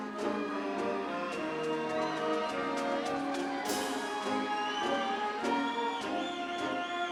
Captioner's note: upbeat ceremonial music; audience cheering